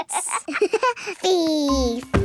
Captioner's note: giggles